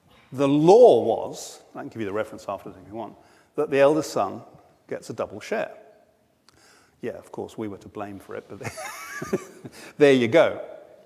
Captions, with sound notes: The law was, I can give you the reference afterwords if you want, that the eldest son gets a double share. Yeah, of course, we were to blame for it, but (laughs) there you go.